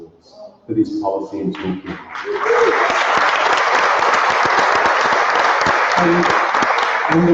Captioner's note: applause